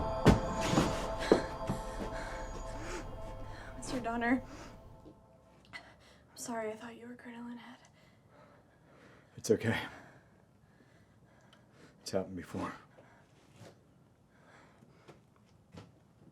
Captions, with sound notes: (Shelby breathing heavily) - Mr. Donner, I'm sorry I thought you were Crinoline Head. - It's okay. It's happened before.